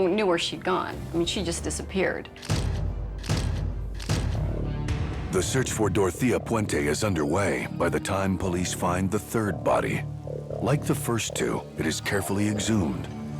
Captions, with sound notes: WHERE SHE HAD GONE. I MEAN SHE JUST DISAPPEARED. (camera shutter clicks) THE SEARCH FOR DOROTHEA PUENTE IS UNDERWAY BY THE TIME POLICE FIND THE THIRD BODY. LIKE THE FIRST TWO, IT IS CAREFULLY EXHUMED